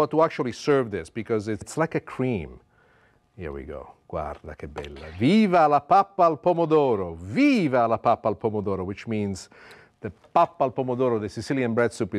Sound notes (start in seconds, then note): 4.1 speaking Italian